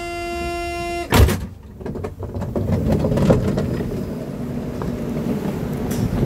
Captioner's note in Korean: 출입문 열림